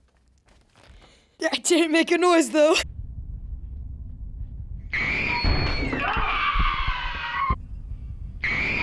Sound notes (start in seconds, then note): 4.7 boy shrieking